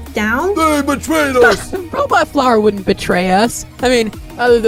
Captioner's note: scoff